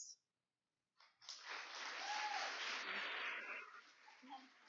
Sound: applause

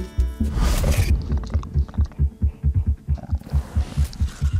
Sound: badger growling

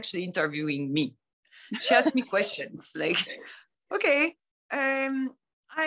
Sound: laughter

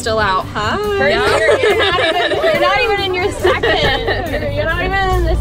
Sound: laughing

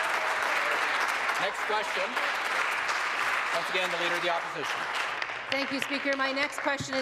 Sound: applause

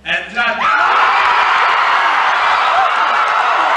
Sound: cheering

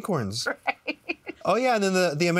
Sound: laughs

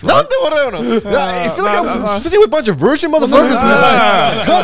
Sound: group chattering

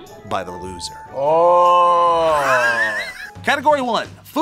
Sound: both laugh

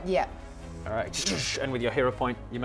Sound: zap

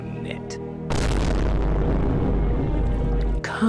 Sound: boo-om

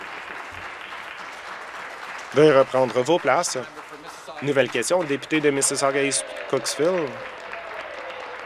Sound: applause

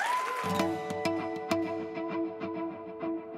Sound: applause

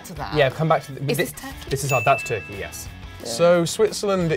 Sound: bell dings

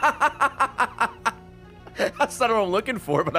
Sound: laughs

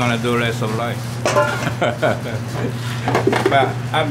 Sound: laughs

